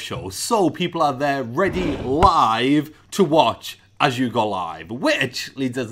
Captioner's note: none